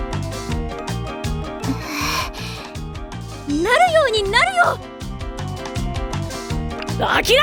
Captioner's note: deep Breath